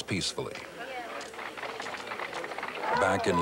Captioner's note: applause